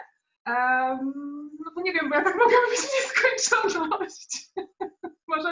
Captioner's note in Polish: śmiech